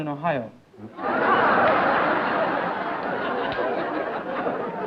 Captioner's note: laughter